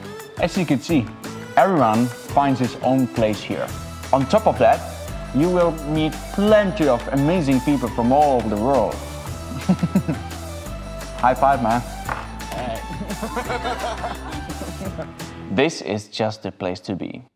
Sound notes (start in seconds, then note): 12.9 laughter